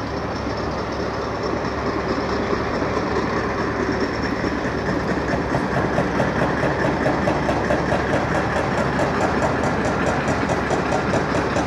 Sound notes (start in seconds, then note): 1.9 loud machinery/vehicle